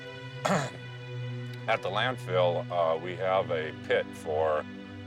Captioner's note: clears throat